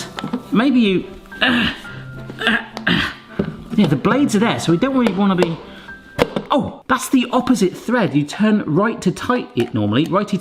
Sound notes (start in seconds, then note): 1.4 grunts